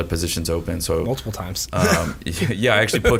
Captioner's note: chuckles